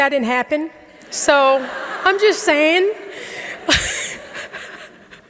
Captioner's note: audience laughing; laughs